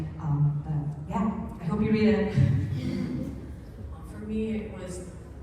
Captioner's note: laughs